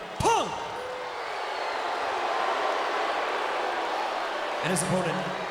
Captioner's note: audience booing